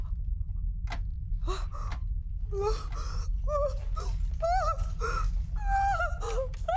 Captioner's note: droning sound; ticking continues; Mrs. Hill whimpering